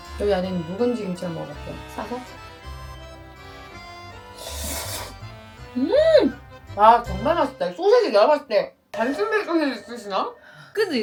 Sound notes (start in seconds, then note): 4.3 slurp